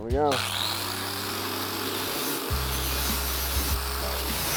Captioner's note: whirring